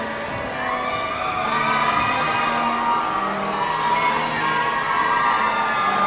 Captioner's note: audience shouting and cheering